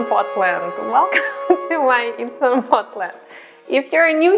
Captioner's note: laughs